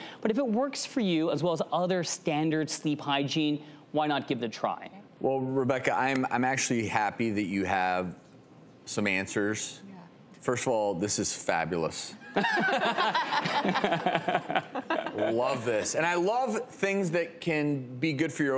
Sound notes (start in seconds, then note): 12.4 laughing